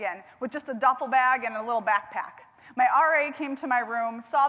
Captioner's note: none